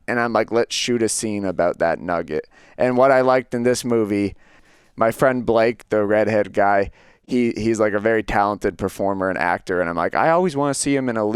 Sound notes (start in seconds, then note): none